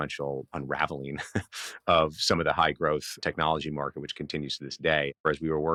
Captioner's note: laughing